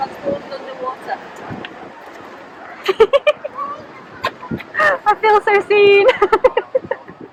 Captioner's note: laughing